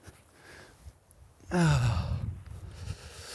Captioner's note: groans